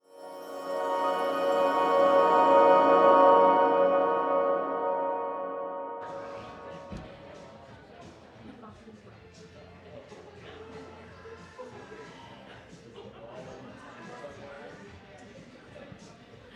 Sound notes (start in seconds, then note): 0.0 bright music; 6.5 audience murmuring; 7.6 upbeat pop music